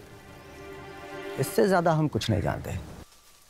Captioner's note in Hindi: none